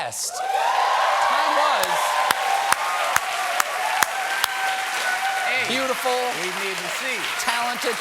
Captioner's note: cheers and applause